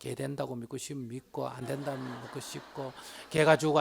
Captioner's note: audience Laughter